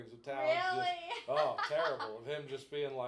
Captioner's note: laughing